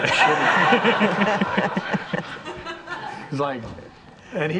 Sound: all laughing

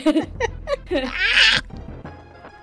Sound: throaty sound

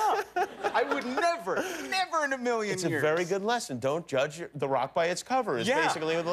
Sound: laughter

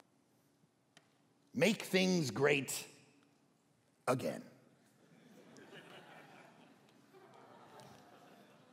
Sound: congregation laughing

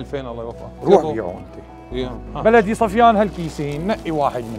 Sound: chatter

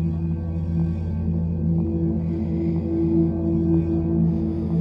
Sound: laboured breathing

